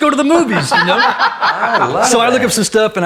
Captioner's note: laughs